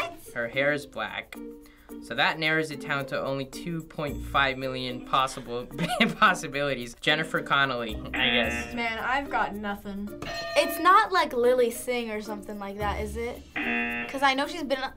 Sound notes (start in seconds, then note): 8.2 buzzer; 10.2 bell rings; 13.5 buzzer